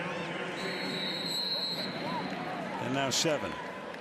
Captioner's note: pa announcement; whistling